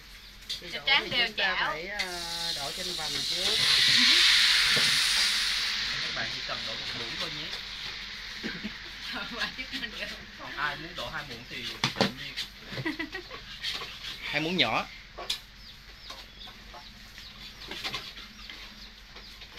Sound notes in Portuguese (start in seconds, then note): 12.6 Tiếng cười